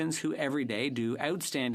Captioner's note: speaking French